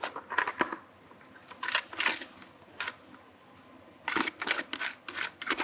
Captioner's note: spatula scraping continues